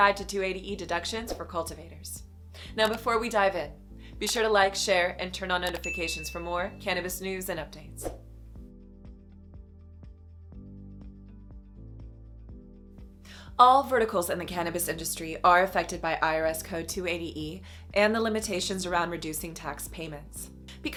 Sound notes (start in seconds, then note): 5.7 bell ringing; 8.2 gentle music continues